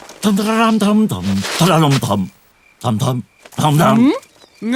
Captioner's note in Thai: ฮัมเพลงสายลับ